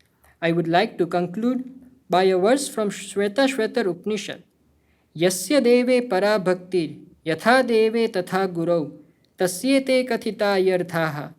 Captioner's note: speaking hindi